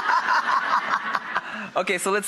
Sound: laughs

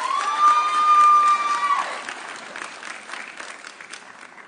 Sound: audience cheering

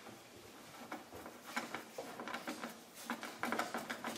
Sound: it rattles quietly when screwing

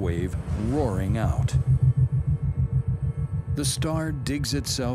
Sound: shockwave roaring

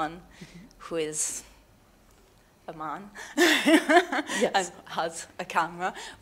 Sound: chuckles

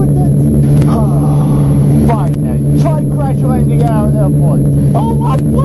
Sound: sigh

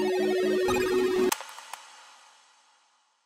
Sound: click

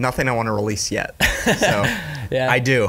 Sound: laughs

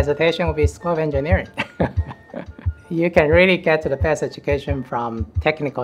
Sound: laughs

